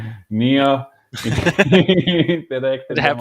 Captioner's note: laughing